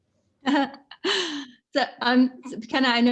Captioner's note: laughing